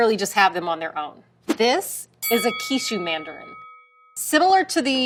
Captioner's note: bell dings